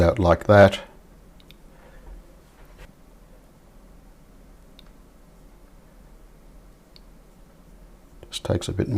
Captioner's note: silence